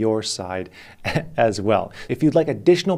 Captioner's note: laughs